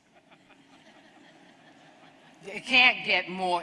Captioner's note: laughter